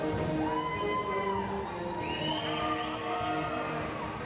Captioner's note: audience cheering